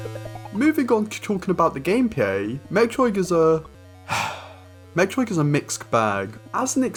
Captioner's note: sigh